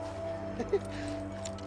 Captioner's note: laughter